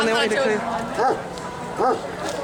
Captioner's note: bark